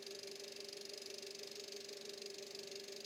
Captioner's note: none